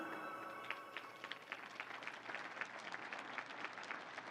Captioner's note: crowd applauds